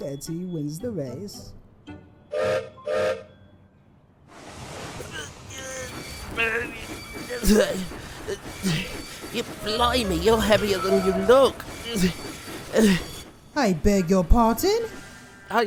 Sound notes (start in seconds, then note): 2.7 gilbert whistles; 3.9 gilbert strains and groans